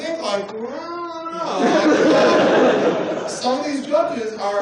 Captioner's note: laughter